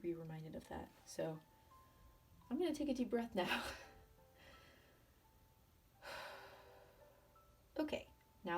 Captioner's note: deep inhale, exhale